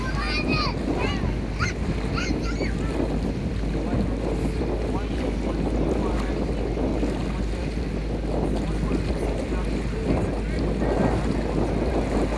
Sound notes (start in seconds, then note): 0.0 kids yelling; 7.4 wind blowing